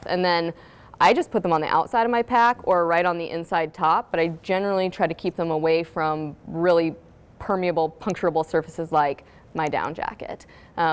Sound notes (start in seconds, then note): none